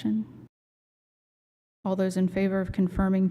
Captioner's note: silence